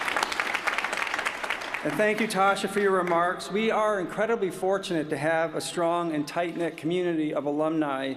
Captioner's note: cheers & applause